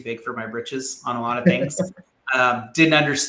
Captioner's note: laughs